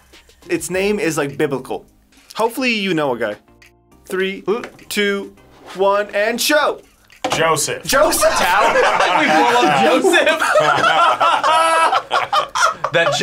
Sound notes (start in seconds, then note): 8.0 both laugh; 10.5 group laughs